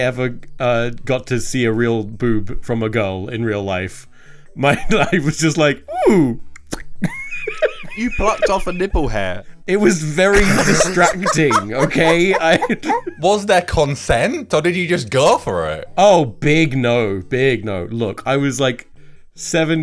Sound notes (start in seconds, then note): 6.6 laughs